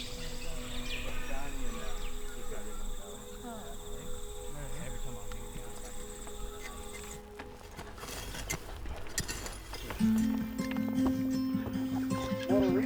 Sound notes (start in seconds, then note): 0.0 people chatter; 8.1 tool grazes loudly; 10.1 soft music